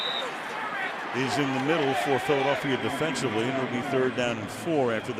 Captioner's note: pa announcement